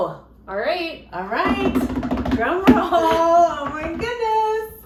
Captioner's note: both drumming on table; both laughing